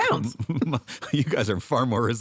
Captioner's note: laughter